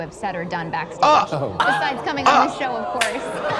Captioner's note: audience laughs; audience gasps